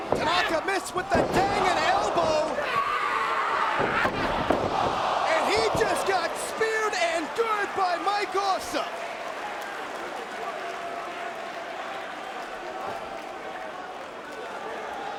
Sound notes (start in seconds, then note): 2.7 Tanaka yelling; 9.8 crowd chattering